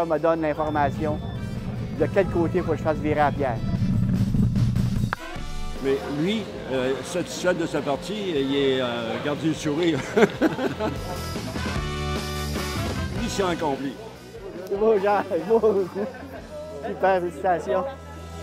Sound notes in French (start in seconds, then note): 9.9 rires